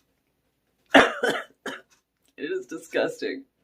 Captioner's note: coughing due to awful taste